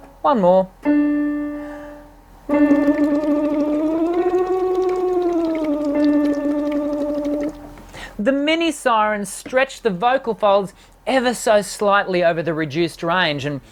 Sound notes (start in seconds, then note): 2.4 piano playing; 2.5 bubbling